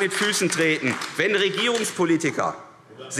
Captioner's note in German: Beifall AfD